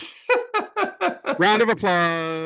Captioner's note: laughing